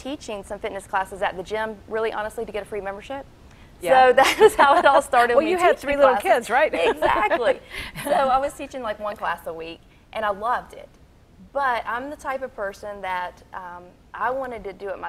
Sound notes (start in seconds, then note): 3.9 laughing; 6.5 laughing